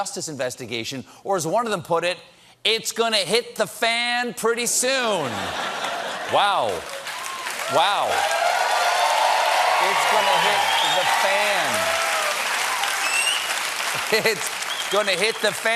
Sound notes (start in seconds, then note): 5.2 laughter; 6.2 cheers and applause